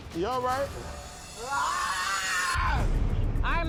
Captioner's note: yells